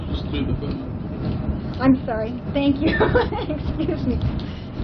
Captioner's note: gülüyor